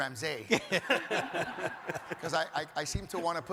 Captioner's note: audience laughs